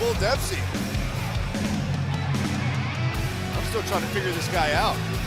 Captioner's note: crowd cheering